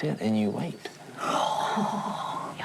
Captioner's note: sighs